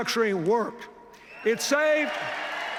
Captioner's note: cheers, applause